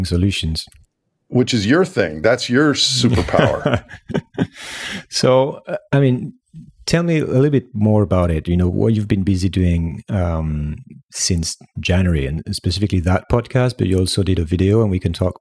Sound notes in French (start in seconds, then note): 3.0 Rires